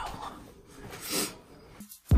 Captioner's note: sniffles